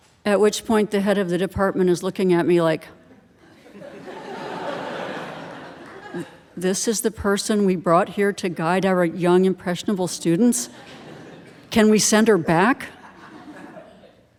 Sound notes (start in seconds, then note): 3.4 audience laughing